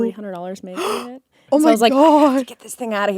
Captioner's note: gasps